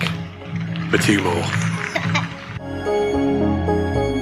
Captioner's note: laughing